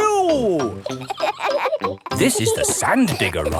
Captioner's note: kids laughing